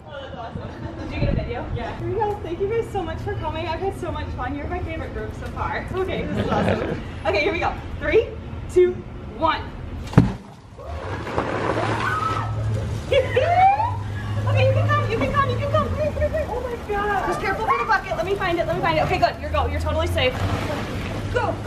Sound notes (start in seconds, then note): 9.9 students squealing; 10.9 chemicals pop; 13.3 professor laughs